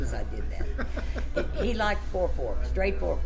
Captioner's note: laughs